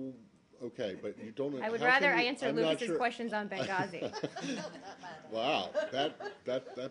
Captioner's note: laughter